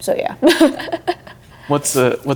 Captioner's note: laughing